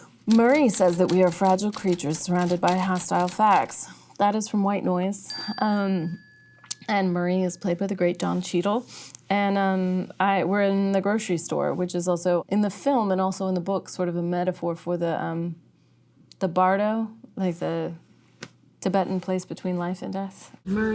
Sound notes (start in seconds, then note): 5.3 bell ringing